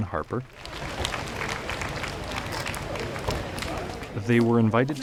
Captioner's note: crowds applauding